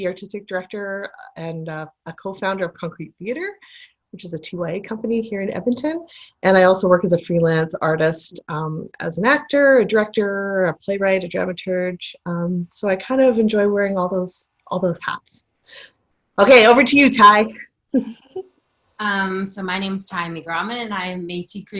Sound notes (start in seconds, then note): 17.9 laughter